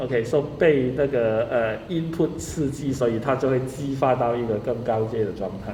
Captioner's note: speaking in foreign language